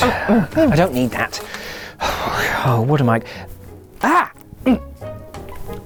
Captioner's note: sighs